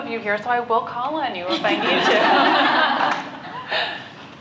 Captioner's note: laughter